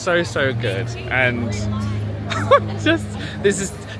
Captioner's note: laughs